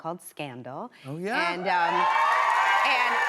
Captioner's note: cheers and applause